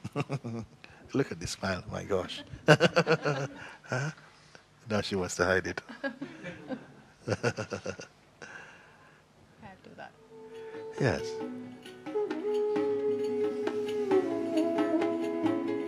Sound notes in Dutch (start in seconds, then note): 2.3 gelach; 7.2 lacht